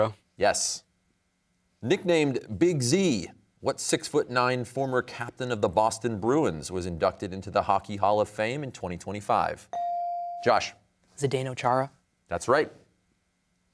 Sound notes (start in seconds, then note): none